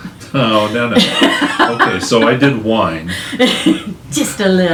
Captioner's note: laughs